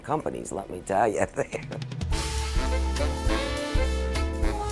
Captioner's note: chuckles